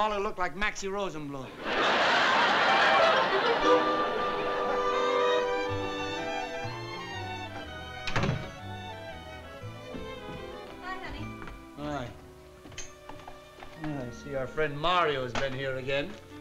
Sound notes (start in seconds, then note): 1.5 laughter